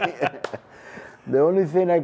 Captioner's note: laughter